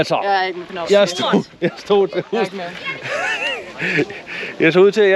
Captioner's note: laughs bitterly